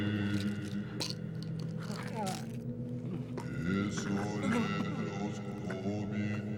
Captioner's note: chanting in foreign language; pills rattling; groaning